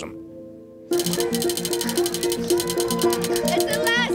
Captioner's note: wheel clicking